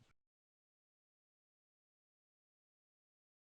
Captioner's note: silence